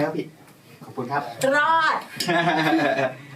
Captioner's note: laughs